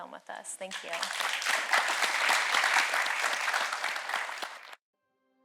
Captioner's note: audience clapping; upbeat music